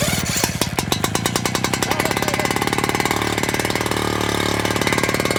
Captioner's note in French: moteur de la pompe